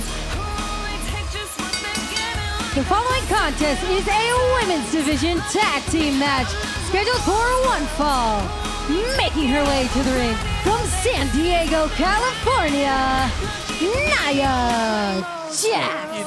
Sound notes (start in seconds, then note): 1.6 bell ringing